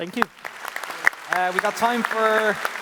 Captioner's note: applause